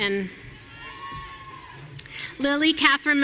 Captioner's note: audience cheering